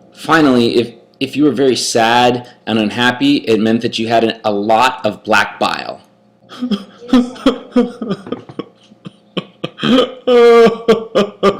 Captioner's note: sobbing